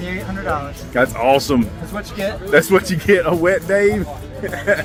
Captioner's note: laughs